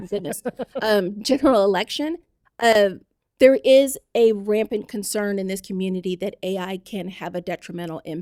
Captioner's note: laughter